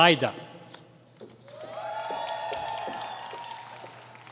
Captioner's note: applause